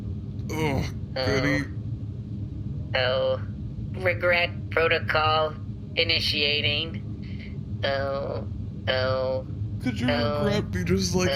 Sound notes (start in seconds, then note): 0.5 Shae and GOOD_E wake up, groaning; 9.8 continues vocalizing regret as Shae speaks; 10.3 groggily